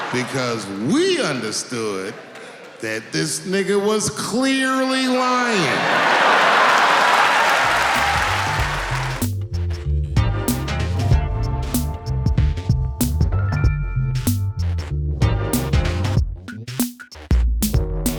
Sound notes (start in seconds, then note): 5.7 laughing; 8.7 smooth techno music